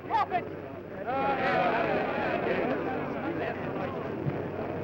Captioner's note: chatter